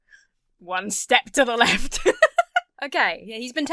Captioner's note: laughs